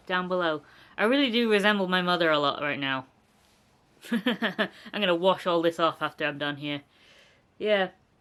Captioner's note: laughter